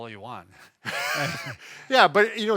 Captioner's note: chuckles